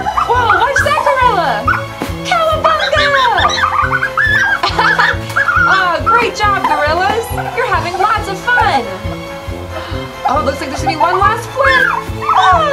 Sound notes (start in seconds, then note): 4.8 laughs